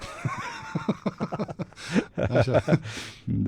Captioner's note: laughter